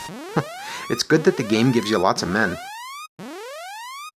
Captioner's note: chuckles